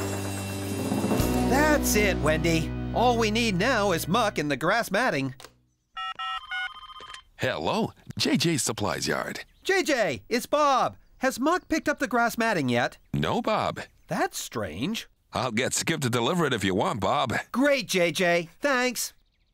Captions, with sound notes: THAT'S IT, WENDY, ALL WE NEED NOW IS MUCK AND THE GRASS MATTING. ( Cell Phone Tones ) ( Ringing ) HELLO, JJ'S SUPPLIES YARD! JJ, IT'S BOB. HAS MUCK PICKED UP THE GRASS MATTING YET? NO, BOB. THAT'S STRANGE! I'LL GET SKIP TO DELIVER IT, IF YOU WANT, BOB. GREAT, JJ, THANKS!